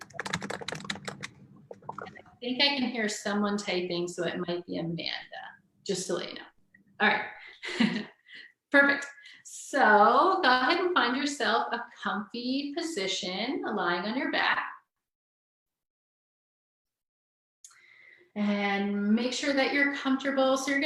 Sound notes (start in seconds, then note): 0.0 keyboard clacking; 7.5 chuckles